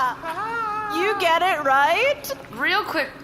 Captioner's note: laughs; laughs nervously while mopping